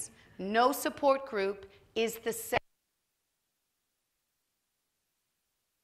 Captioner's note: audio cuts out